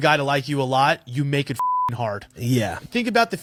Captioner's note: beep